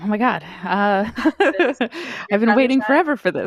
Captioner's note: laughs